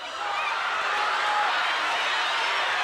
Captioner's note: audience shouting